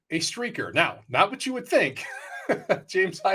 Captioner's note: laughs